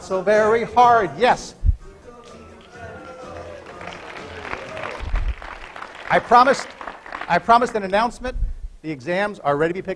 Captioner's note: applause